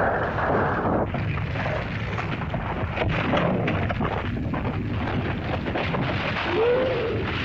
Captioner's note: rocks bang & clatter; earth rumbles; fire crackles; lizard cries out